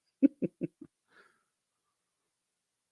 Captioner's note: laughs